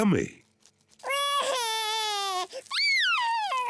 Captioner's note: cries